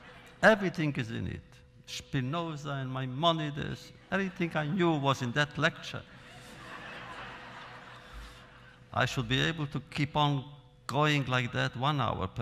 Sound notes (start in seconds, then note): 6.1 laughter